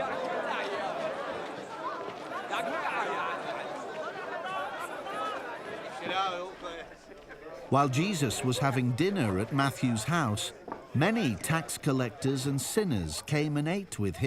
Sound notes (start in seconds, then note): 3.9 crowd cheering